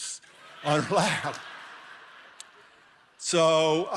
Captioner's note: laughing